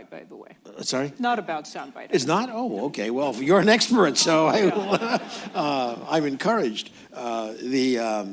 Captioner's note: laughter